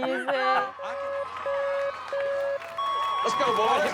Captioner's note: group laughing; lights beeping